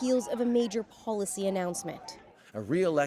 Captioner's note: chanting